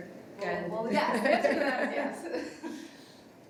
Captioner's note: everybody laughing